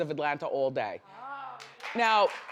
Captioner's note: audience claps